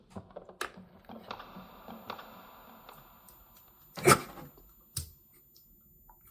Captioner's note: high-pitched tone; teeth crunching